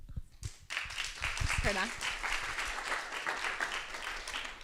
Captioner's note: crowd applauding